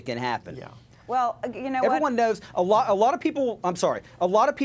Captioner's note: female Speaking